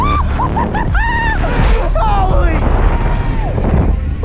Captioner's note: whooping